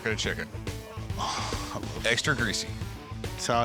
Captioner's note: exhales